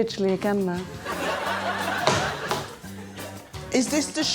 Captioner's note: laughter